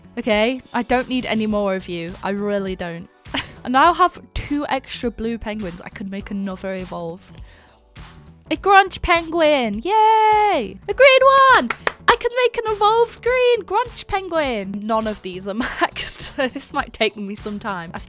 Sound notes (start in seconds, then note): 11.5 claps